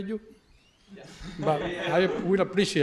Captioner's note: laughter